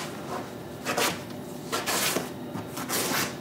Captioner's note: tearing and cutting noises